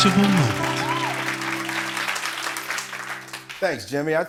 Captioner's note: applause